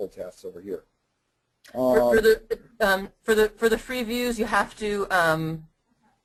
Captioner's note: voiceover